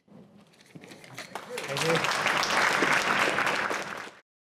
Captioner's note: applause